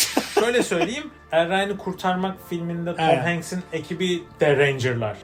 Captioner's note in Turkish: kahkaha